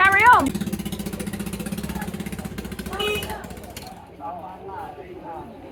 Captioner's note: tuktuk motor; background chatter